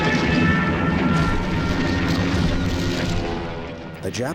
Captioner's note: explosions booming